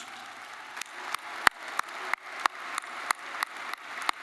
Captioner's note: attendees applauding